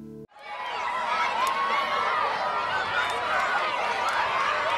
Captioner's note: children cheering